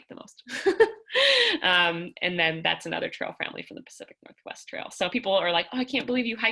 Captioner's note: laughter